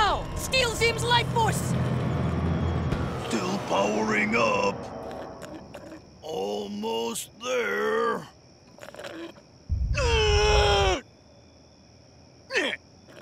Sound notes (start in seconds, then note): 9.7 groaning